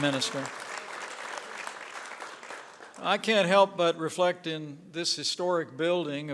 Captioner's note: applause